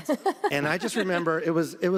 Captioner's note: laughs